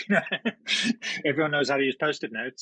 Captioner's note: laughs